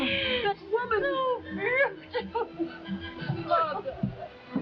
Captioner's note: chuckling